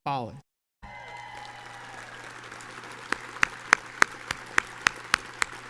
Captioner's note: audience cheers and applauds